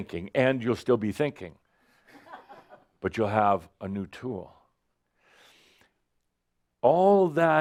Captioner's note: a few chuckles